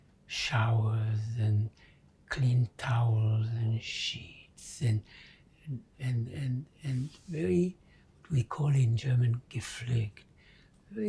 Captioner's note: german